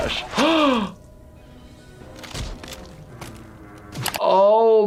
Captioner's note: gasping